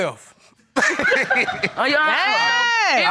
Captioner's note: both laughing